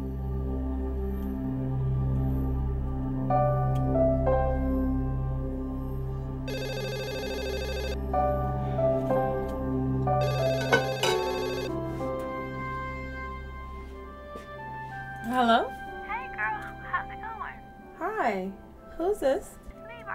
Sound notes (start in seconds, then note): 6.4 phone ringing; 10.6 plate clanking